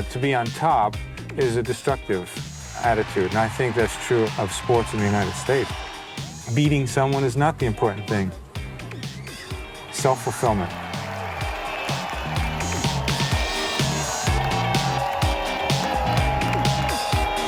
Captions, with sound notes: to be on top is a destructive attitude, and I think that's true of sports in the United States. Beating someone is not the important thing. Self-fulfillment. [audience cheering] [audience applauding] [upbeat pop music]